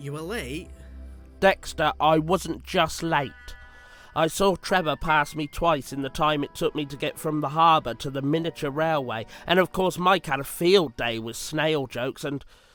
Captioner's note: sighs